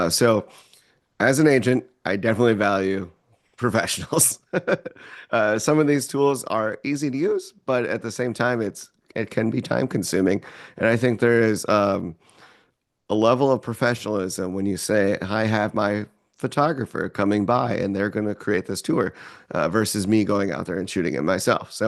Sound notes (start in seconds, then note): 4.0 laughs